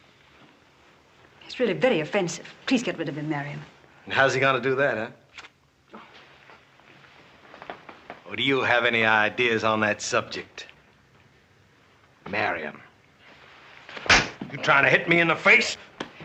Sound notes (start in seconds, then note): 13.9 smack!